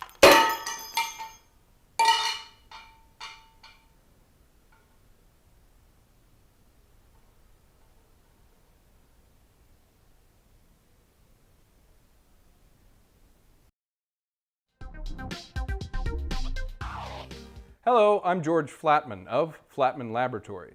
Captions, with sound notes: (metal clanging) (metal clanging) (upbeat music) Hello, I'm George Flatman of Flatman Laboratories